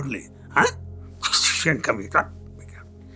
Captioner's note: makes dental sound